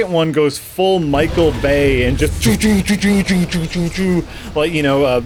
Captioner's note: explosion sound effects